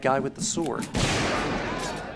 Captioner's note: gunshot